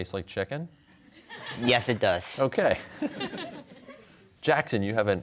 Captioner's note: laughter